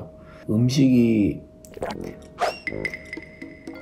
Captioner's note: gulp